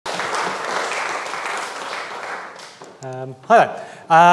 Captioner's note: audience applauds